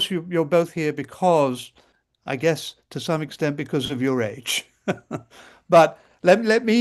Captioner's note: laughs